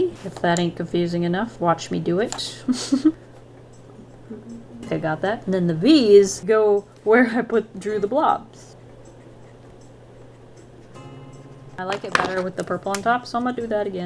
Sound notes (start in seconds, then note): 2.4 laughs